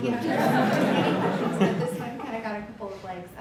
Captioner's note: laughter